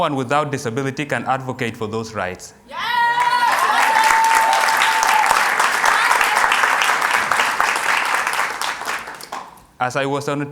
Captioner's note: cheers and Applause